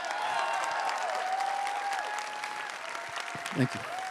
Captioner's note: everyone cheering and applauding